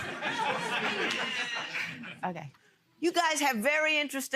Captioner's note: laughter